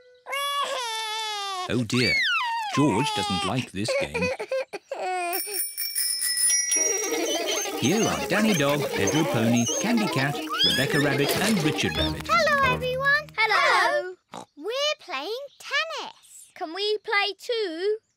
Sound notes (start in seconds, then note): 0.2 cries; 5.2 laughing; 5.3 bells ringing